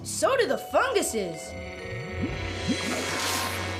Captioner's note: none